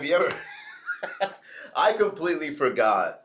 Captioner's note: laughs